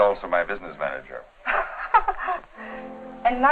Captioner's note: laughing